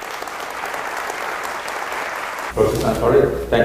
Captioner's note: applause